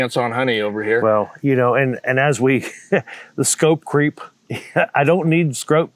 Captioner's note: chuckles